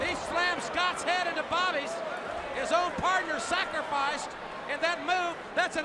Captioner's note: crowd cheering